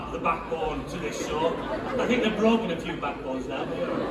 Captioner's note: laughter